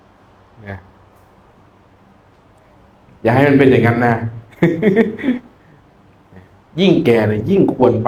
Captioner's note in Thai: เสียงหัวเราะ